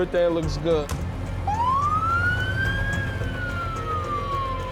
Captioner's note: siren wailing